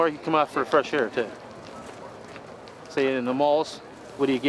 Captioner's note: laughs